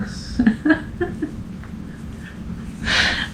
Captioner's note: laughter